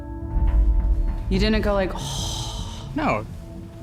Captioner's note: exhale